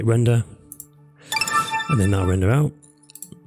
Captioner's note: computer alert sound